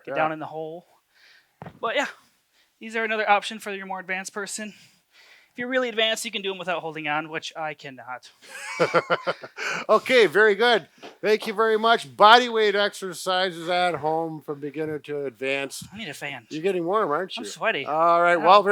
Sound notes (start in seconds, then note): 8.4 laughter